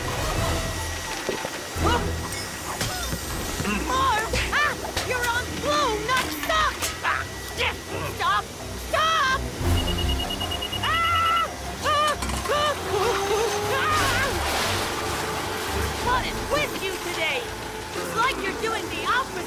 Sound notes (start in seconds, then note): 0.1 fierce Classical music; 9.6 vacuum beeping; 13.4 intense Classical music